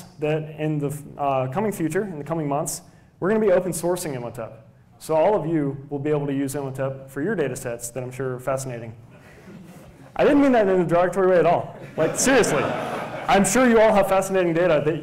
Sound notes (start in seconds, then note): 9.3 laughter; 11.7 laughter